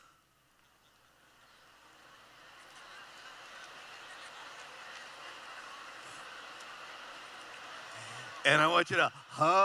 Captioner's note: chatter